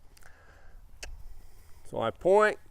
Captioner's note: clicks tongue